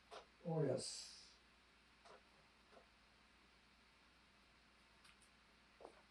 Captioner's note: pauses 10 seconds